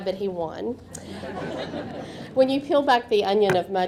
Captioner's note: audience laughing